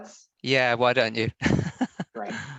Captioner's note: chuckling